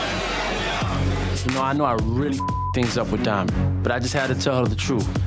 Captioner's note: beep